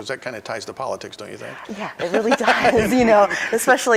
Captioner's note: laughing